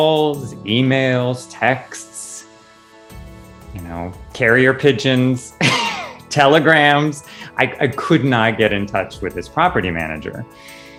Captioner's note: laughing